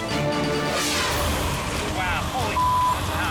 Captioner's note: air whooshes; beep